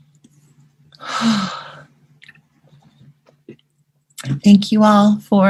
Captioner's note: breath